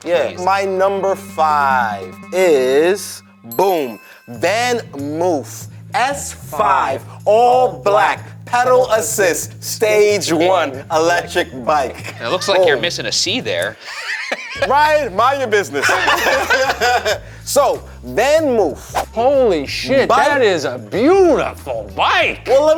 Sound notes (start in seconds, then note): 13.4 laughing; 15.6 group laughing